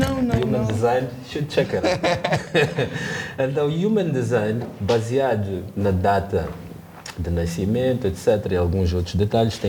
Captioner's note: laughter